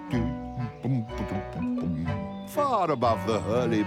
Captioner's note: chuckles